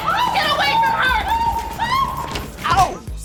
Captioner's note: screaming